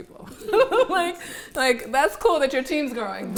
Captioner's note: all laugh